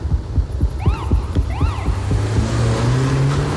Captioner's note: police siren wails